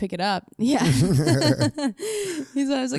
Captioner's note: both laughing